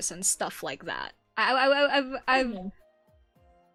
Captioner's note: fumbling words